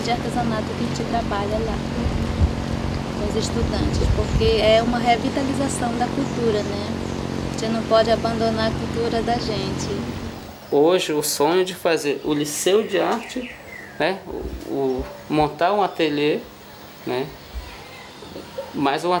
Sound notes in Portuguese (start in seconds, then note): 6.1 motor de barco; 12.2 pássaros cantando